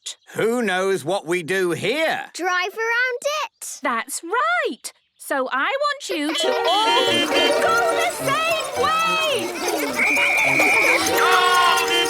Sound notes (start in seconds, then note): 6.3 beeping; 9.9 whistle blowing; 11.8 beeping